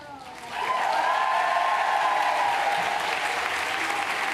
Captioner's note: cheers, applause